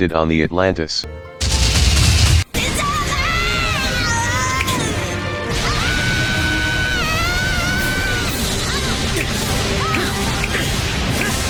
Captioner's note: intense blasting sounds